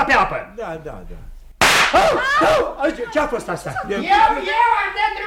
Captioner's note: sound of a pop